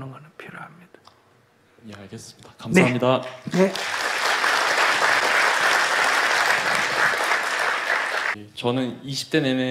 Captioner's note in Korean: 청중 박수